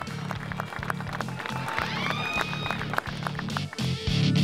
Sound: clapping and cheering

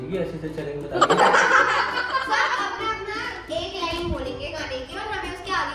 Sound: laughter

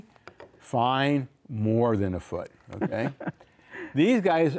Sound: laughing

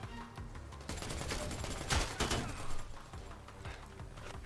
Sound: guns firing

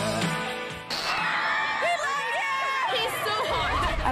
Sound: cheering

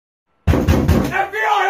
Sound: door knocking

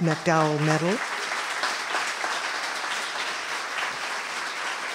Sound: applause

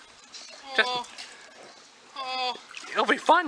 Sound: Beauregard Moaning

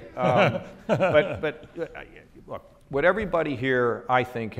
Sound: laughs

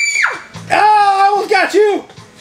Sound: assistant screams; exclaims

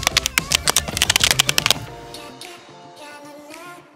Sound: crackle

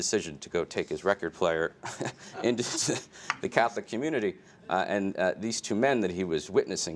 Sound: laughs

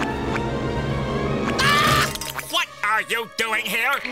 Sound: screams

